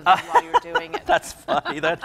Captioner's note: laughs